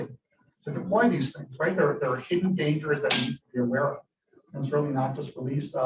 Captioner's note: none